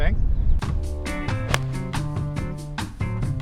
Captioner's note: thwack